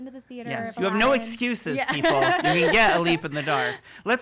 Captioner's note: laughing